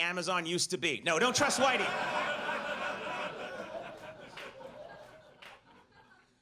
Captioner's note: audience laughs